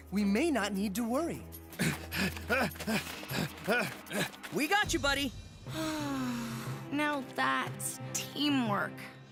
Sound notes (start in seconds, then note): 1.7 Sam Panting; 5.7 sighs